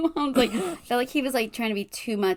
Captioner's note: laughs